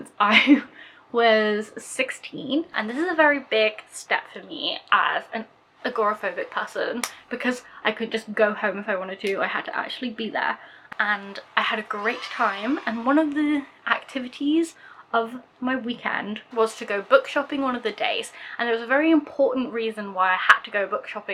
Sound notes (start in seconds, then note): 11.0 kids cheer